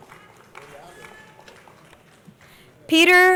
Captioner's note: crowd applauding